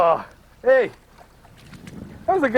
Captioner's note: laughing